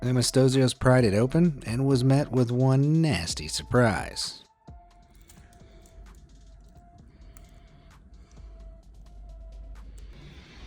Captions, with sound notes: Anastasios pried it open and was met with one nasty surprise. (heavy breathing)